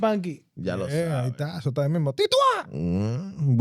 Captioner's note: speaking In Foreign Language